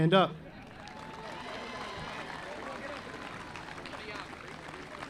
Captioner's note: audience applauding